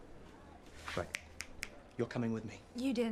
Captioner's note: finger snapping